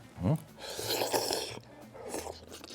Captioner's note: slurp